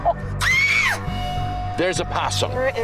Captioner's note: woman screaming